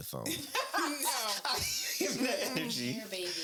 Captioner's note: laughing